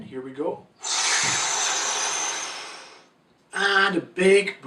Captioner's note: inhales